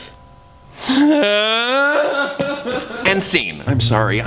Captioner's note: weeps